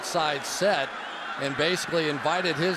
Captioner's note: cheering